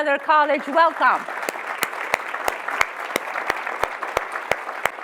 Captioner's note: audience applauds